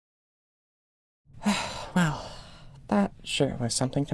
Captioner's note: sigh